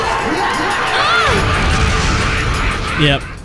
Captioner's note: crazed laughter; explosion, cry of pain